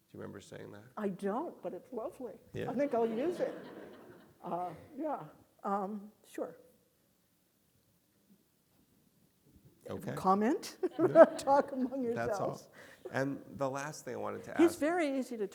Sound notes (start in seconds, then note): 10.8 laughs